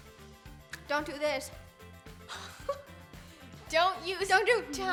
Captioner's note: giggles